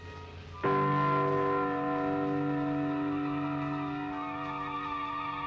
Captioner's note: church bells tolling